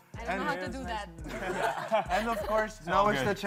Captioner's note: chuckles